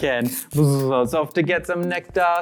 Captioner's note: makes a buzzing noise